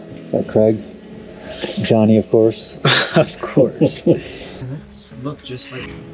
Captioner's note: laughing